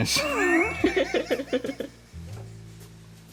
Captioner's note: laughing